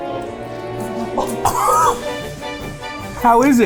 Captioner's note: laughs